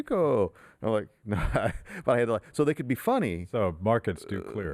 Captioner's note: laughs